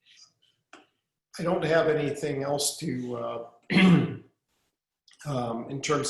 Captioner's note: clearing throat